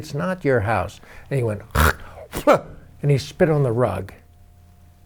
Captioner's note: mimics spitting